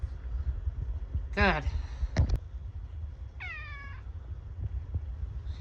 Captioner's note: meows